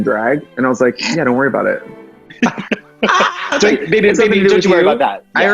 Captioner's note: laughs